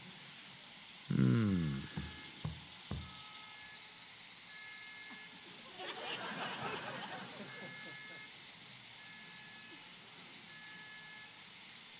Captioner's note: laughter